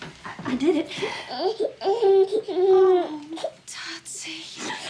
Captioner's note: baby fussing